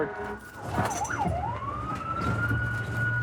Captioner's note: siren